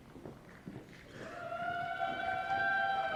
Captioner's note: applause